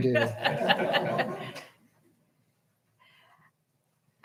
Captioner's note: all laughing